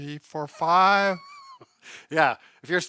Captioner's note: laughs